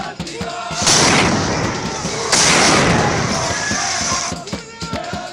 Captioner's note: celebratory cheering and singing; sound of explosions; celebratory cheering and singing